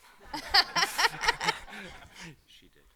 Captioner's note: all laughing